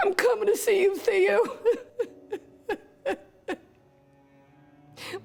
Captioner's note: cries